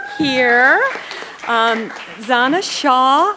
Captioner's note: attendees applauding